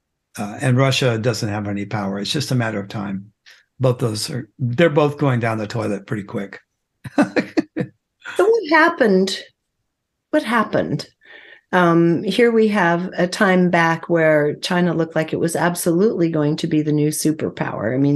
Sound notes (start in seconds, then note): 7.0 laughs